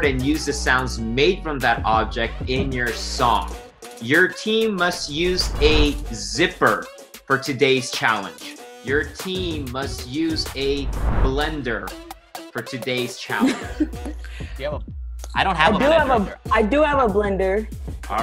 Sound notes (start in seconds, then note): 13.4 laughing